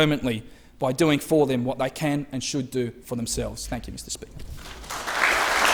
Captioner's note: applause